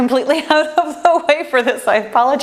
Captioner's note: laughs